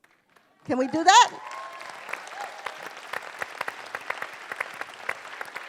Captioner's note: cheering and applause